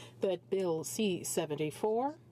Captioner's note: speaking French